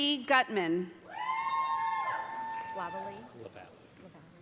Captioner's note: loud cheering